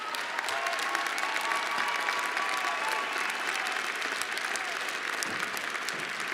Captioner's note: cheers and applause